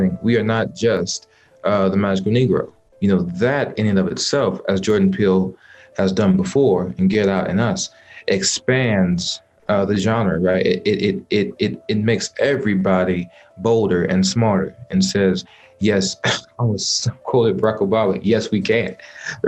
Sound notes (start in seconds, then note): 16.3 laughs